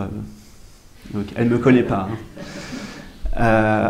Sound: audience laughs softly

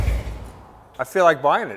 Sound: engine shuts off

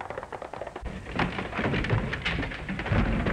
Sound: fighting sounds

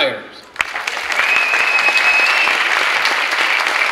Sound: clapping

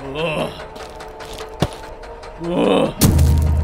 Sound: growls

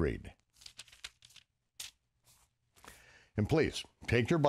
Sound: pages crinkling

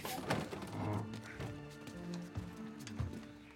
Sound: none

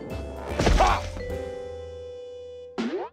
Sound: grunts

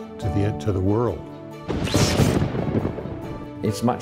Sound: thunder and lighting

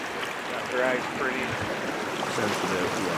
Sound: background chatter

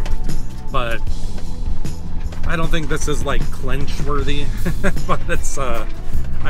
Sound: laughter

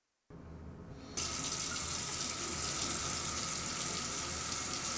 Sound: water running

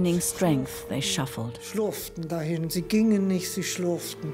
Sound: speaks in foreign language

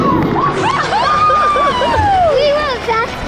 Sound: shouting

